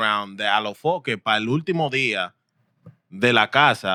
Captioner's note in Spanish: Hablando en idioma extranjero